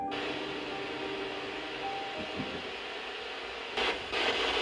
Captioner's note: static crackling